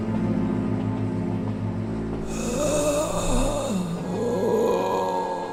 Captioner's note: more groaning and heavy breathing